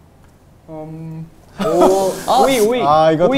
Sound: whisper whisper

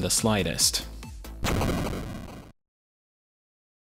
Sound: "Game Over" sound

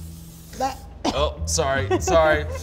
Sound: sprays; coughs

